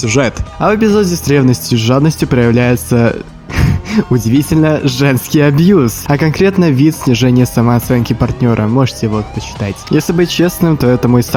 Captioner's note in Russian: смешок